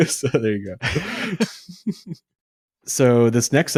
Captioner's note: laughs